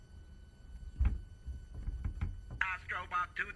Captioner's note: knocking inside cupboard